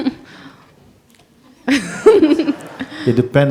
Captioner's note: laughter